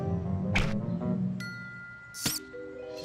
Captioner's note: squeaks